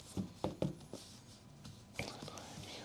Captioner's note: whispering